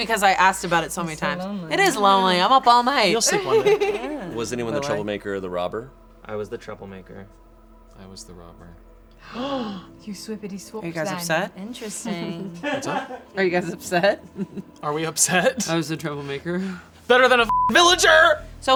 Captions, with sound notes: because I asked about it so many times. It is lonely, I'm up all night. - You'll sleep one night. - Was anyone the troublemaker or the robber? - I was the troublemaker. - I was the robber. - (gasps) You swippity swapped it. - Interesting. - What's up? - Are you guys upset? - Are we upset? - I was the troublemaker. - Better than a (beep) Militer.